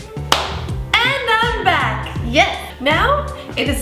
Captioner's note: clapping